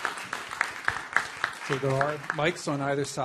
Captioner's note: applause